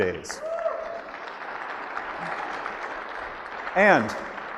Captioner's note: audience applauds